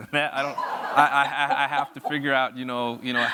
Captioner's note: audience laughs